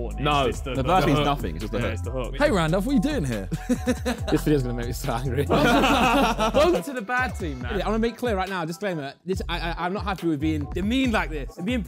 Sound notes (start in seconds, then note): 5.2 Sidemen laughing